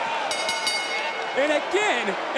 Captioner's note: crowd oohing; bell dinging